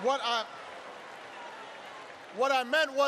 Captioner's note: applause